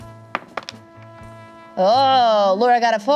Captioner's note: dice roll